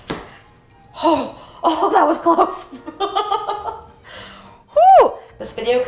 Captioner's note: laughs